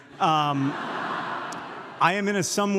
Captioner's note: audience laughs